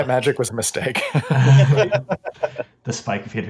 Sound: laughs

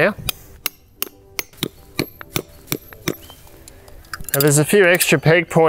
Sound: hammering metal pegs

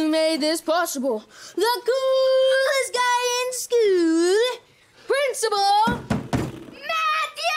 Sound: banging

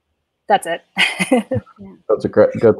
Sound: laughs

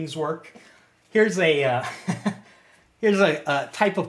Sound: chuckles

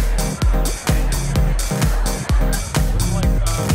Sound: crowd chatter

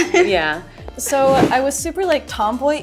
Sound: transition whooshing

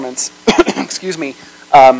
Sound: coughs

